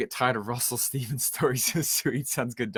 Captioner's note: laughs